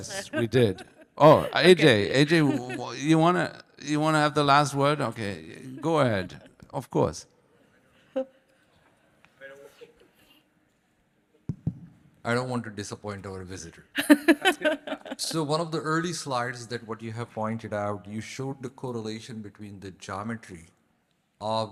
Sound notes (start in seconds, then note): 14.0 laughing